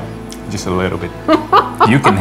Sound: laughing

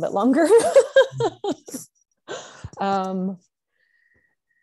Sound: laughs

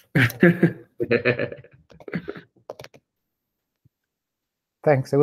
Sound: laughter

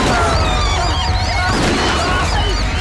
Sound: gunshot

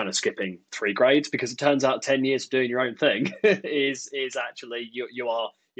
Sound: laughs

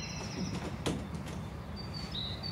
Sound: birds chirping; door opens

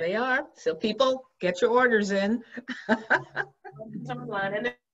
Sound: laughs

